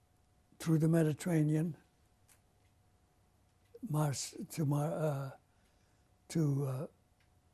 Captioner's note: pauses for 3 seconds